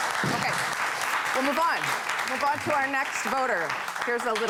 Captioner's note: applause